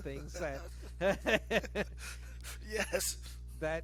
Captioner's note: both laughing